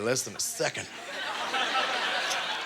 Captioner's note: audience laughter